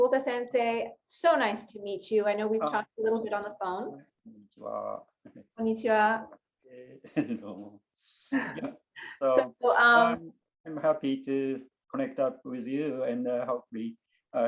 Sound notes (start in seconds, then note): 5.6 both speak in Japanese